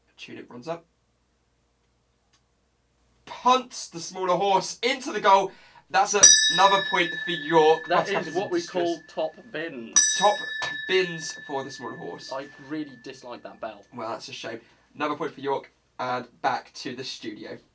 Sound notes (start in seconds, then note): 6.2 bell dings; 9.3 bell dings again